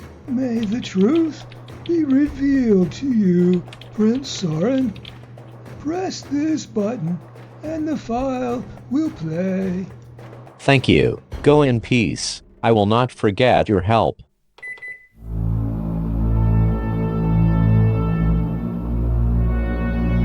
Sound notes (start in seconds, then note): 14.4 clicks; 15.2 foreboding music